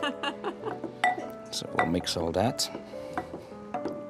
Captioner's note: laughs